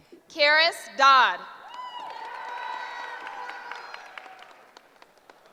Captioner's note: cheering